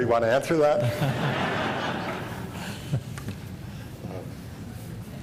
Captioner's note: laughter